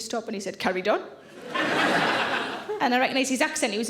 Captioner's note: audience laughing